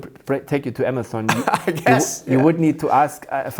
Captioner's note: laughs